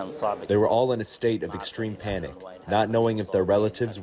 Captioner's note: through translator